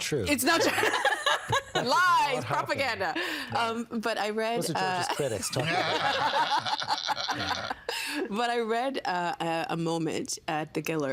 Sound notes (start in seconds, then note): 0.1 all laughing; 5.2 laughing